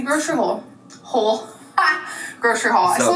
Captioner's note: laughs